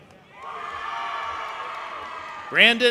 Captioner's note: audience applauding and cheering